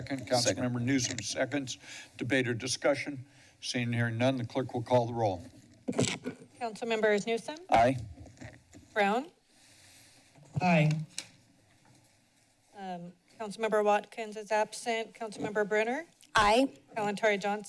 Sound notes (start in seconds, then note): 5.8 microphone distortion; 9.6 inhales